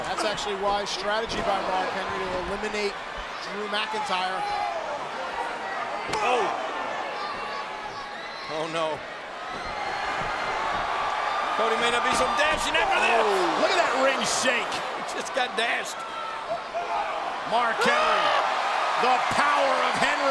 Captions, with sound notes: That's actually a wise strategy by Mark Henry to eliminate Drew McIntyre. Oh! Oh. (crowd chattering) Oh, no. (crowd cheering) Cody may not be so dashing after this. Look at that ring shake. Just got dashed. Mark Henry, the power of Henry.